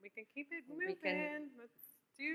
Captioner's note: none